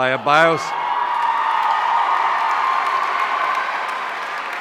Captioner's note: audience cheering